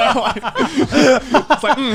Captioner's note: laughing